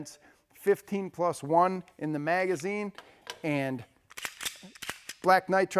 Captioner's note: gun clicking